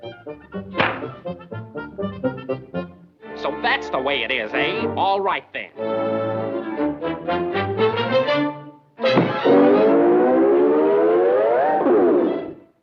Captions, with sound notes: (slingshot thwacking) - So that's the way it is, eh? All right then. (anticipatory music)